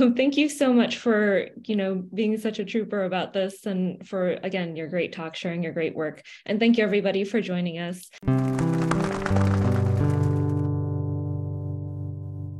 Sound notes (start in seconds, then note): 8.2 sound of wings flapping